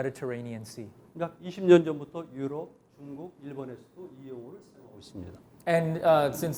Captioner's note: speaking in Korean